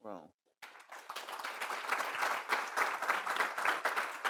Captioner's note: audience applause